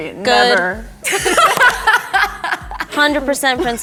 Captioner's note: all laughing